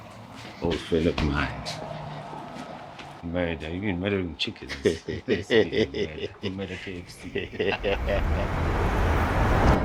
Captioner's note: laughs